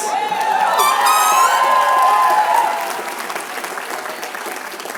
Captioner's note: applause